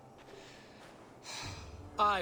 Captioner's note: sigh